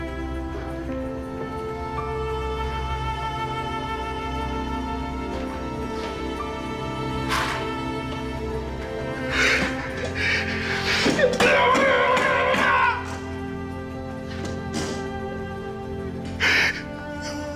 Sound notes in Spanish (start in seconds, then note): 10.9 Gritos y golpes